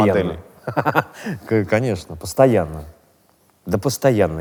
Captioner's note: laughs